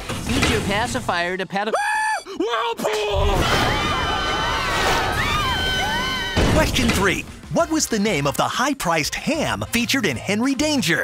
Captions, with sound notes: Use your pacifier to-- Ahh! Whirlpool! [all screaming] Question three. What was the name of the high-priced ham featured in Henry Danger?